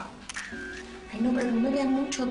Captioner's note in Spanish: Sonido del obturador